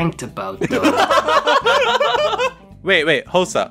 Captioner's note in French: rigolent